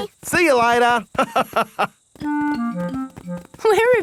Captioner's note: laughs